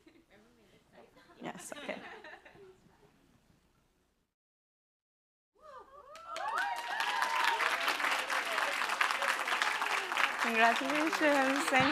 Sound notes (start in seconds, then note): 5.6 cheering; 9.1 applause